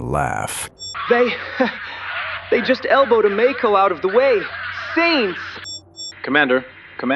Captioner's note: laughs